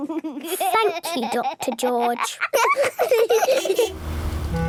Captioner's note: laughs